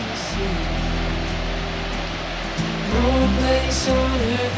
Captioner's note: water Running